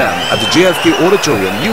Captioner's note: wild applause and cheering for 22 seconds